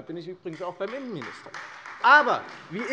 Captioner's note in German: Beifall Freie Demokraten